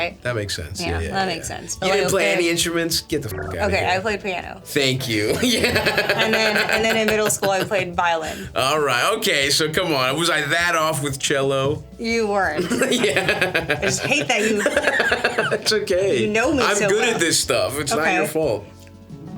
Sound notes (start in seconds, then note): 3.3 beeps; 5.0 Stavros laughs